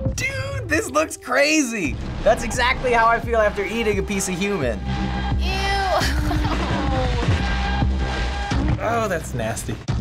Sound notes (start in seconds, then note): 6.6 whimpers